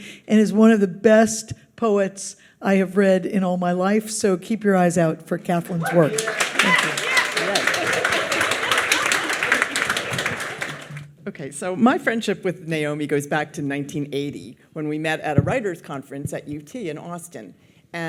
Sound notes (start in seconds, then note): 5.7 audience cheers and applauds